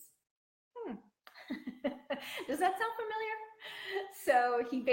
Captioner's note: laughing